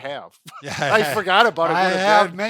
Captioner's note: chuckles